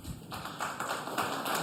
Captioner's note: applause